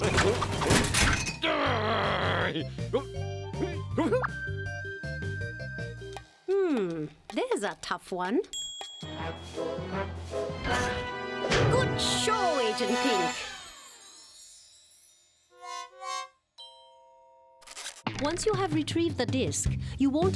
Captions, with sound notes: (groans) OH! (whimpers) HMM, THERE'S A TOUGH ONE. GOOD SHOW, AGENT PINK. ONCE YOU HAVE RETRIEVED THE DISK,